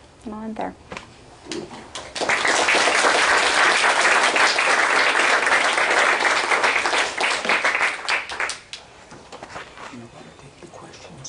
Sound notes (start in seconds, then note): 1.9 applause